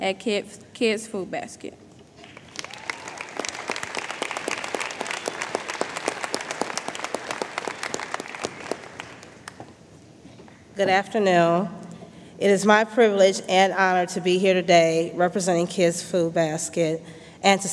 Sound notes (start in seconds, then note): 2.2 applause